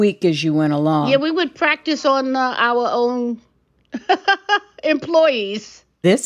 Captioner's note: laughter